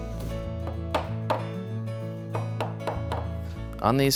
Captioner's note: hammer tapping